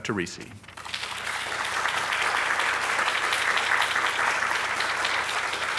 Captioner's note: audience applauding